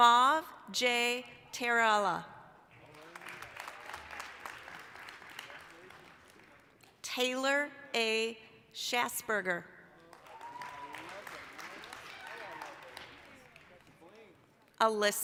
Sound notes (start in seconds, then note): 2.8 applause, cheering; 10.0 applause, cheering